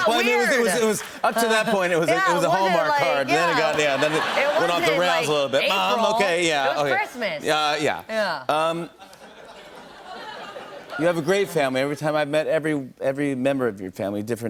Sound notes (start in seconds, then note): 8.9 laughter